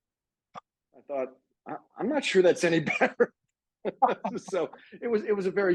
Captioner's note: laughing